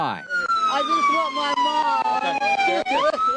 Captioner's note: sirens blaring